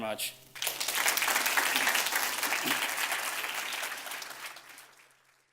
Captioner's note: audience applauds